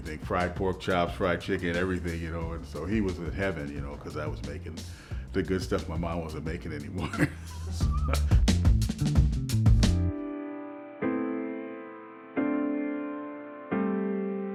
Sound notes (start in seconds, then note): 6.9 chuckles; 7.5 upbeat music